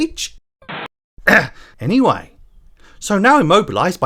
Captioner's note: ahem